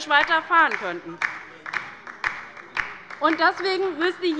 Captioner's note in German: Beifall bei der LINKEN